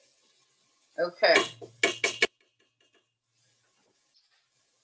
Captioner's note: utensil clanging